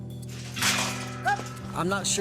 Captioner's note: gates clanging